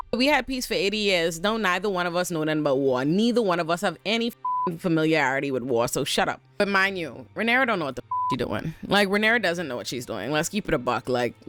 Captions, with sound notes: we had peace for 80 years, don't neither one of us know nothing but war. Neither one of us have any (beep) familiarity with war. So shut up. But mind you, Renara don't know what the (beep) you doin'. Like, Renara doesn't know what she's doing. Let's keep it a buck, like,